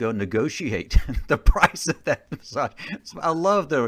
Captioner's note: chuckling